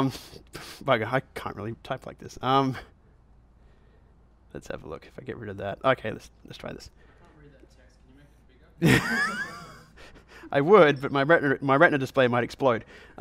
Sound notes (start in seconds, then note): 7.3 voiceover; 8.8 laughs